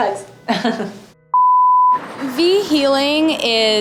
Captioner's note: laughing